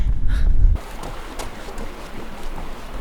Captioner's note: wind blowing